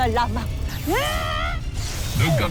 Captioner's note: screams; powerful blast-crackle